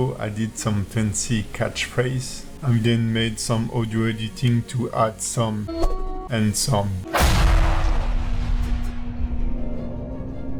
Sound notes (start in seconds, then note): 5.7 sword whooshes; 7.1 explosion booms